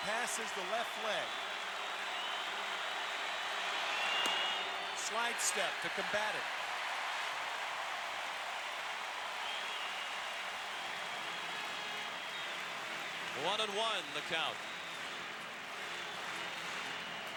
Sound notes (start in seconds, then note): 7.8 applause; 10.3 cheering and Applause